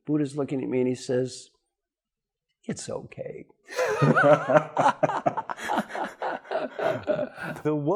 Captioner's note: laugh